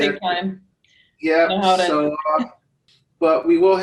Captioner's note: laughs